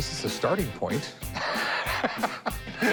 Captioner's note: laughs